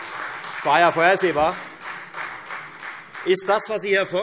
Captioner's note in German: Beifall Freie Demokraten - Zuruf BÜNDNIS 90/DIE GRÜNEN